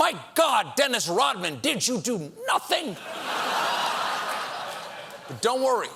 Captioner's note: laughter